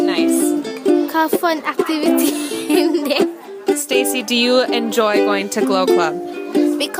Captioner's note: laughs